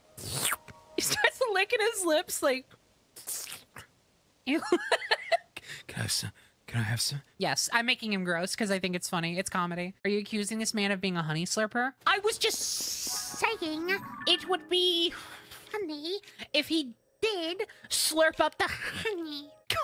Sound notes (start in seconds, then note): 0.2 slurp Sound; 0.9 laughing; 3.2 wet Noises; 4.5 laughter; 12.0 funny Voice